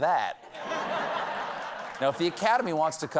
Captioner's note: laughter